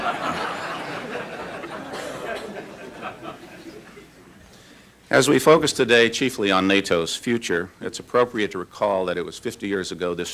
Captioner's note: laughter